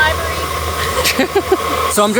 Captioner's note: laughing